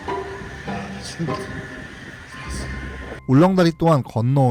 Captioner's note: suddenly light footsteps haha